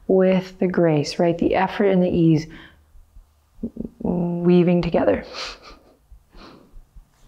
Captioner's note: chuckles